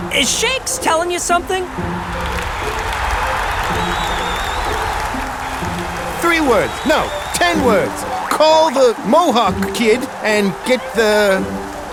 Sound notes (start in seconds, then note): 2.2 crowd cheering